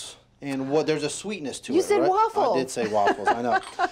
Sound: laughs

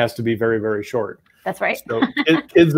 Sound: laughs

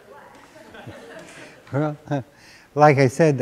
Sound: laughter

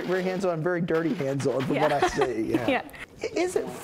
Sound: laugh

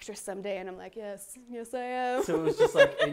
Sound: laughs

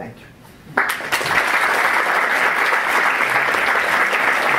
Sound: applause

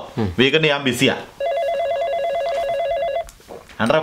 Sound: phone rings

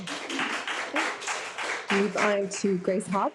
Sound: audience applauds

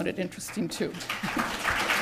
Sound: applause

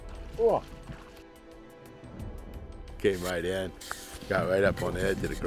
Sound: moose grunts

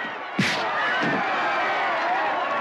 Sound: cheering

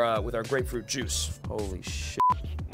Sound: beeping

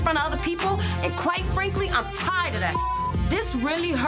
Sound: beeps

